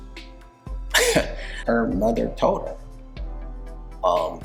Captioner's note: laughs